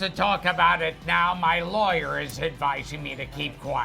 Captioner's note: none